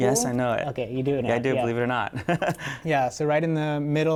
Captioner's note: laughter